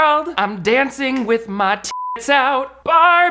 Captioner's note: beep